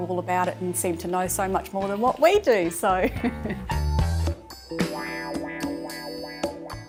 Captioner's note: laughs